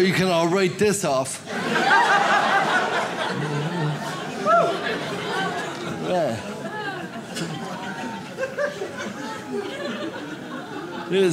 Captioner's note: audience laughs